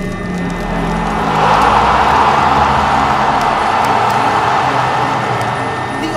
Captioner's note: crowd erupts into cheers!